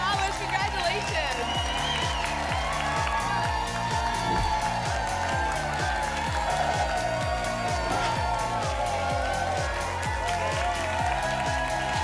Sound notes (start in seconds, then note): 1.8 applause and cheering; 4.2 whoosh; 7.1 applause and cheering cont